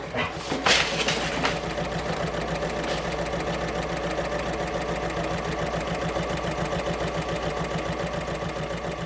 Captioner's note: sewing Machine Sounds